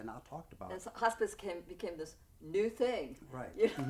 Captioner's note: laughs